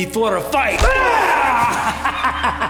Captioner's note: Siegmund yelling; punch thudding; Siegmund laughing